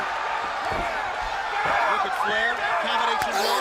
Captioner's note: crowd cheering